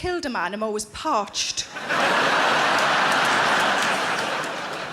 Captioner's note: audience laughing